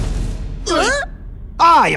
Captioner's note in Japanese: バン